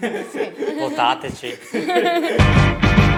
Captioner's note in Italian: risate